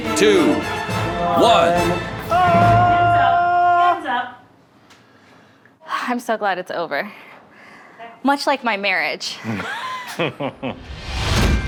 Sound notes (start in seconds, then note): 1.2 yelling; 9.4 laughing